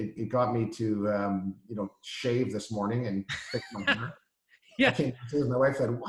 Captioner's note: chuckles